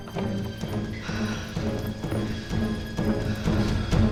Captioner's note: exhaling